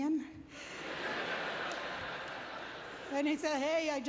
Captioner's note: audience laughter